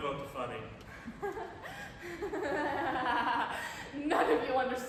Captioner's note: laughs hysterically